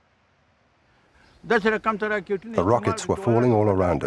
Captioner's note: speaking Afghan